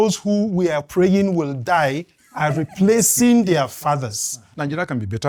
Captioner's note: laughs